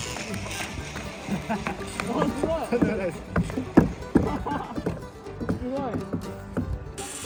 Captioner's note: laughs